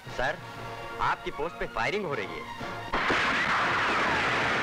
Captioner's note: Gunshot